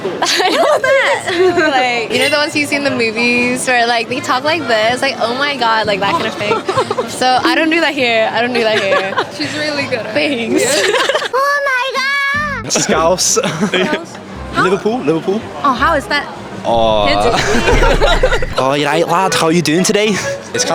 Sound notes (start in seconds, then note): 17.1 cringy laugh